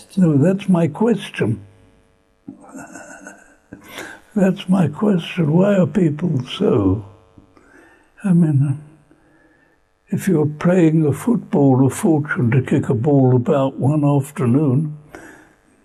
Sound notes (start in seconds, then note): 2.5 laughs